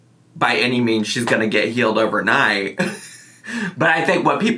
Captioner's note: chuckles